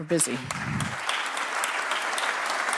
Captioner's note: applause